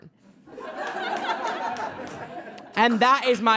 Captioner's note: audience laughs